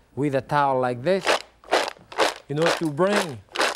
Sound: mussels clattering

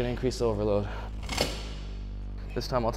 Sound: metal clanking

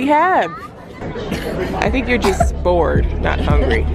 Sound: coughs

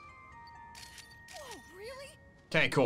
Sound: photo snapping

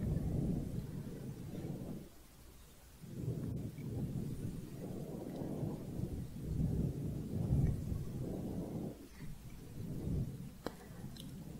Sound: windy sounds

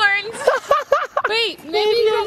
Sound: laughing

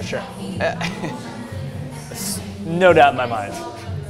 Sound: laughs

